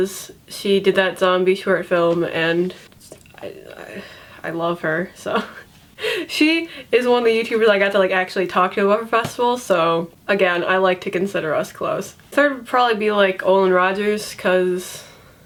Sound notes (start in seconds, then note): 5.5 laughs